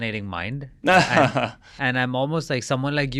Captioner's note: laughs